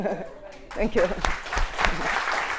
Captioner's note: audience clapping